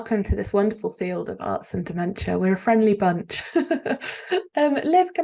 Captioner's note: chuckles